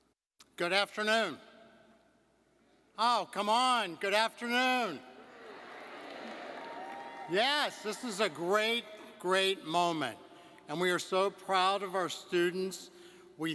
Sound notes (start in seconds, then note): 6.9 audience cheering